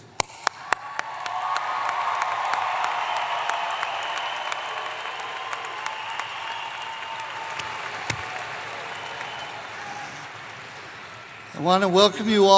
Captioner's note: applause